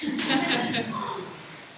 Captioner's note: laughter